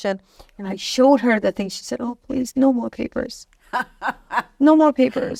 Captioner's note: laughing